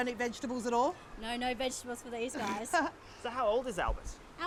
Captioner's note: laughs